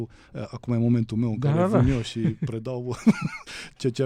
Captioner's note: laughter